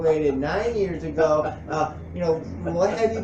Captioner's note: laughs